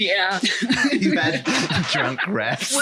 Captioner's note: laughing